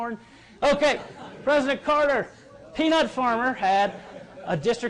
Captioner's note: laughter